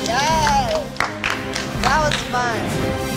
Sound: riders applaud

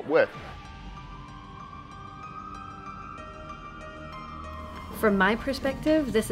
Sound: sirens and music

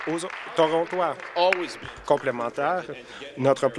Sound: applause

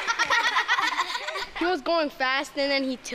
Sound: kids laughing

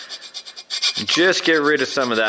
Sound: metallic scraping

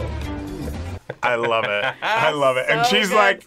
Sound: laughs

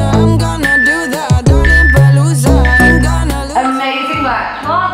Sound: alarm beeping

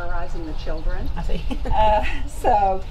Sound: laughs

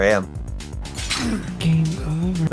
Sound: beartrap clank

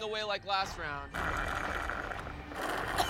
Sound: slurping; coughing

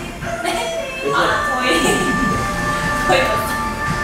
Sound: laughter; laughter

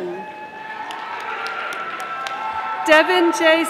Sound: audience applauding

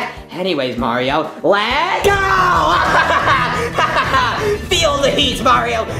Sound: laughs

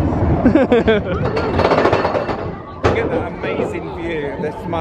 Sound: laughs

